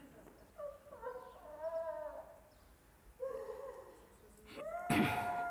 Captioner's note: sound of wailing continues